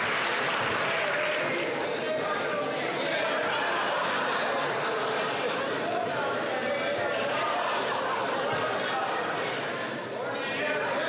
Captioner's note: some Applause